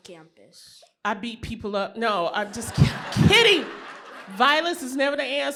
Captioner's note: laughter